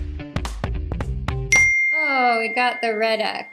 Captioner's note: upbeat music; bell ding